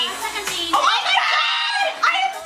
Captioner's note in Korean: 비명